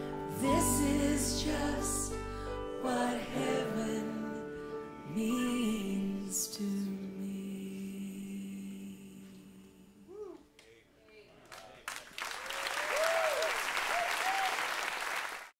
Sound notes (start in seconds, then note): 11.6 cheers and applause